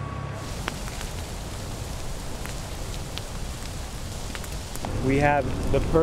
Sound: smoke and wind

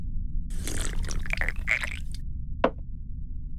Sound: slurps

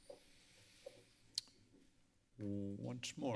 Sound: clicks tongue

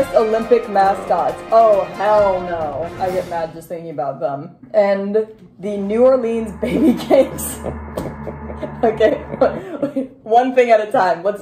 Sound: action music; ominous droning sound; scared laughter

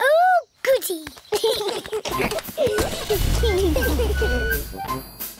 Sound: both giggling

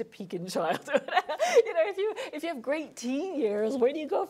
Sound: laughing

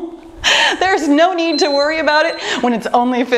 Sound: timer beeping

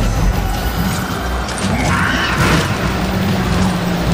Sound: growling

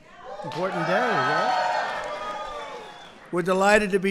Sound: applause

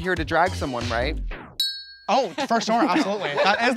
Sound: ding

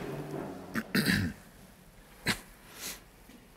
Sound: throat clearing

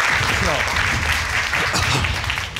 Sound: crowd clapping; clearing throat

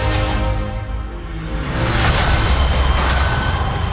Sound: explosion

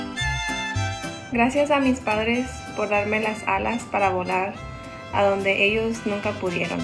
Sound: speaks in foreign language

